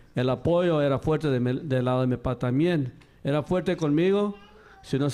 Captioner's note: speaking in Spanish